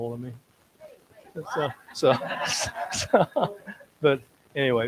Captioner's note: audience laughs